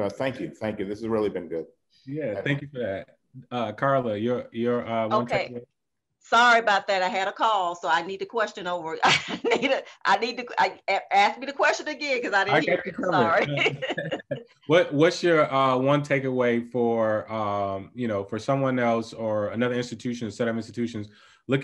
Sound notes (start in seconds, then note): 9.1 laughing; 14.3 laughing